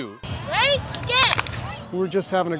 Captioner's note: clapping hands